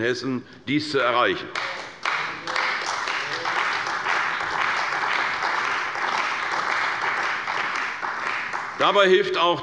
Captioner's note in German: Beifall bei der CDU und dem BÜNDNIS 90/DIE GRÜNEN